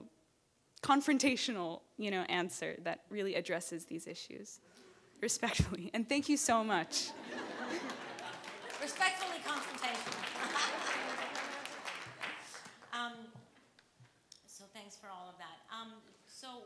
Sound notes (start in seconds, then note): 6.8 audience laughs and claps; 11.2 laughs